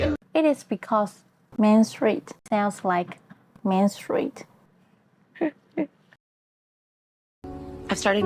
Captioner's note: laugh